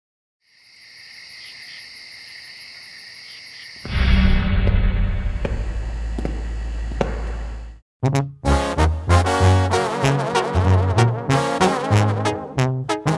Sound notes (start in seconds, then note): 0.4 grillos cantando; 4.3 pasos sobre madera